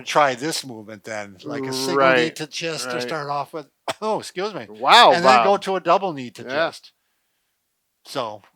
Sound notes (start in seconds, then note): 5.1 coughs